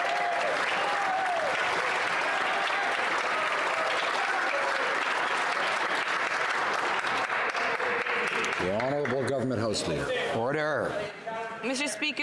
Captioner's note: some Applause